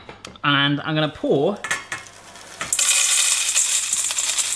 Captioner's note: clattering